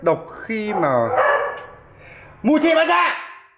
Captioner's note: clicks tongue